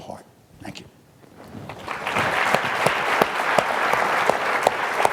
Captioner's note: audience clapping